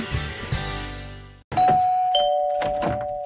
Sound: doorbell ringing

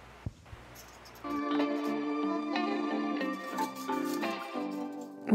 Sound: foil crinkles

